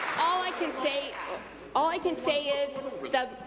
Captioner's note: applause